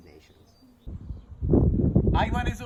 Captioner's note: wind blowing